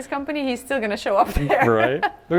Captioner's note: laughs